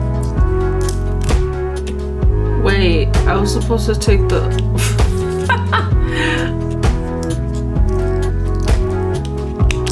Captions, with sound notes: Wait... I was supposed to take the -- (giggles)